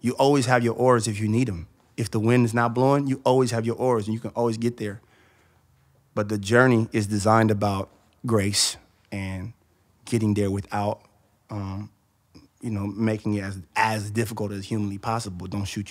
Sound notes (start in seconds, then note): none